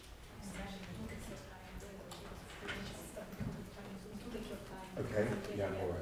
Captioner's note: audience chatting indistinctly